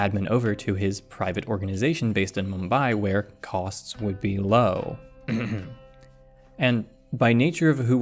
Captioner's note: ahem